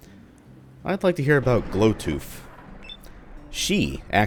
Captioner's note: thunder